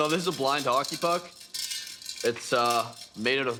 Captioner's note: rattling